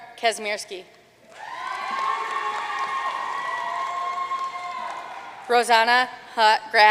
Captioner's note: audience cheering and applauding